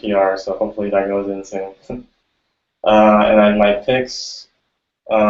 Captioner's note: laughs